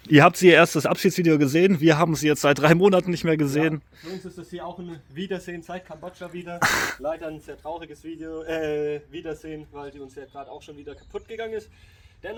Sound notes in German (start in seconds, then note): 6.6 schnauben